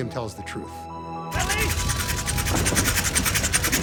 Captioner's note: engine whirring